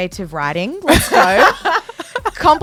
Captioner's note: laughs